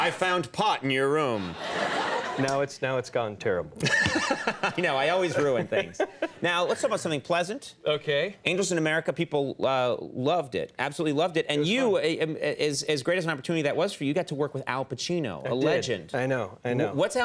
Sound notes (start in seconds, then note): 3.8 Conan laughing